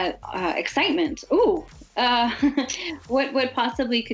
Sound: laughs

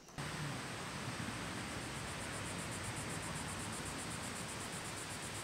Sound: breeze rustling trees and Cicadas buzzing

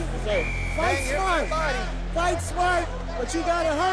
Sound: whistle blows

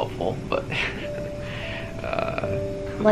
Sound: chuckles

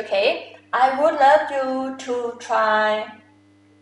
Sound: talking in foreign language

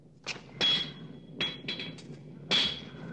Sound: banging

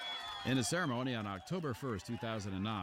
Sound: cheers and applause

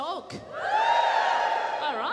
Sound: audience cheers

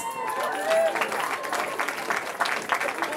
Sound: cheering

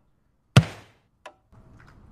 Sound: thud

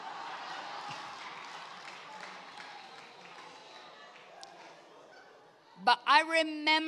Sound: congregation laughs

